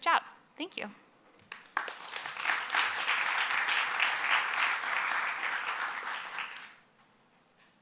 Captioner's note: applause